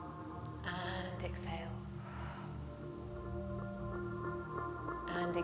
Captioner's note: exhales